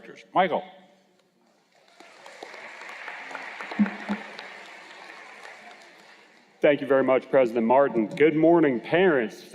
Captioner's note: cheers and Applause